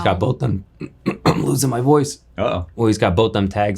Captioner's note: clearing throat